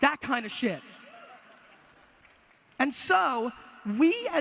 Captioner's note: audience laughter